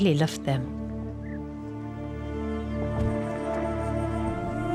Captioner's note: animals calling